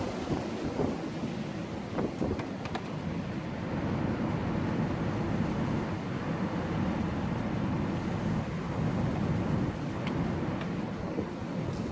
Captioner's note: noise wind